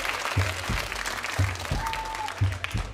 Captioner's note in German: Applaus